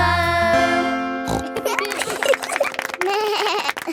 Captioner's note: snorts; laughing; bleats and laughs